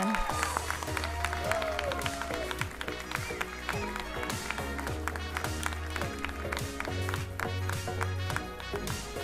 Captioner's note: laughs; applauding